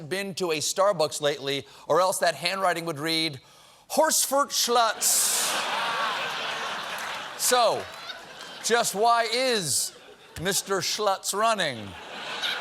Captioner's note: laughter